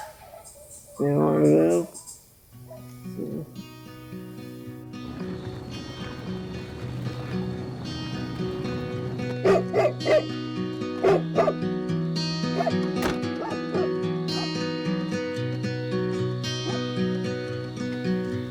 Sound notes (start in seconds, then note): 3.2 guitar music; 9.2 dog barking